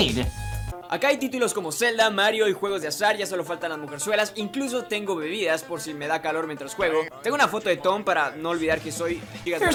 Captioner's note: Spanish